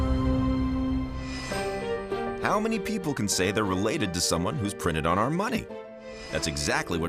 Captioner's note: none